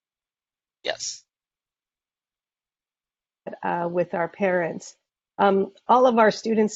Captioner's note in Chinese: 没有声音